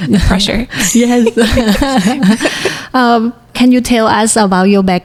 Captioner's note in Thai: หัวเราะ